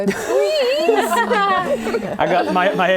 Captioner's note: laughing